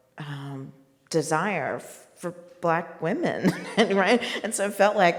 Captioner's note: laughs